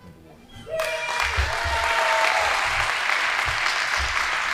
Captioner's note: audience applauding